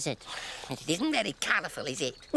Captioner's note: mocking